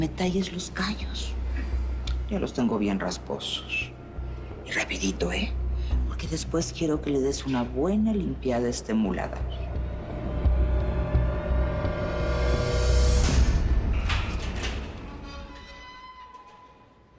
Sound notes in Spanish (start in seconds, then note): 13.9 Ruido al abrir